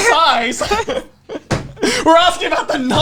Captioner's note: both laughing